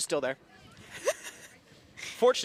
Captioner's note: chuckles